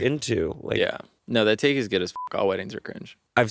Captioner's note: beeping